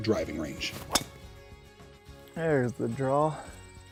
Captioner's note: club whistling